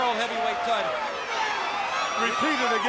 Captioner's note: crowd chatters